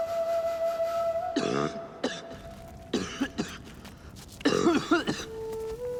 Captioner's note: coughing